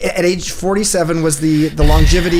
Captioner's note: Gary sighs